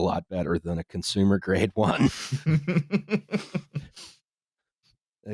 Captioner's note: chuckles